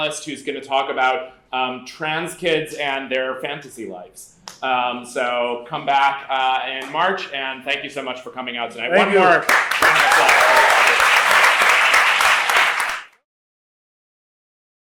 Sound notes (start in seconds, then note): 9.0 applause